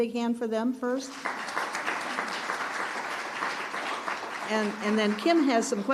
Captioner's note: attendees applauding